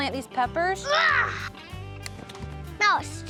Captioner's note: grunts